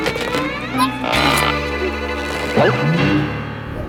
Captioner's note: gulping